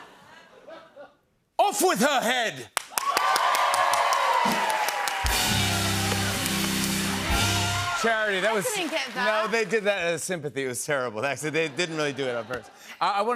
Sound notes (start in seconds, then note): 2.8 cheers and applause